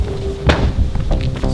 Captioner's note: door close